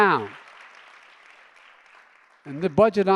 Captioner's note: applause